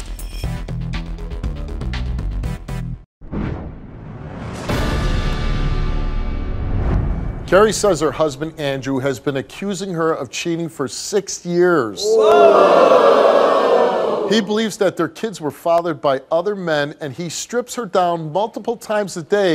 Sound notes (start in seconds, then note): 3.3 dramatic music; 12.0 audience shouting